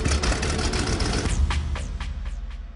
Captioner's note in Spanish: Ruido al prender el motor